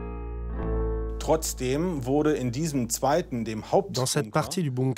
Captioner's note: German spoken audio